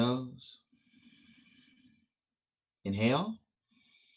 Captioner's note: exhale